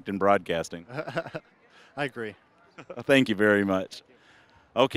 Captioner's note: chuckling